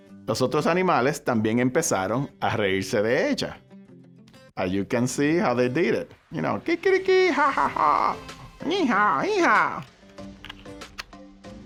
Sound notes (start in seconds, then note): 0.5 speaking Spanish; 7.2 imitates animals laughing